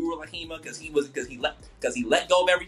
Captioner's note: stammering